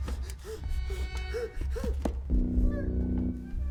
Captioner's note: whimpering; ominous music